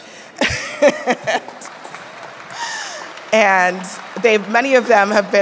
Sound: audience clapping

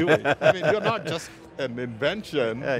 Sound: laughs

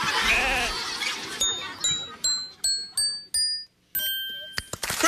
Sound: yells; sheep bleats

